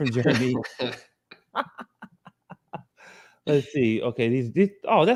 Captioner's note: laughs